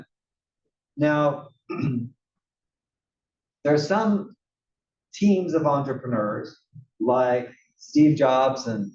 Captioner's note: cough